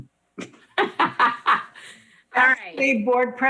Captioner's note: laughs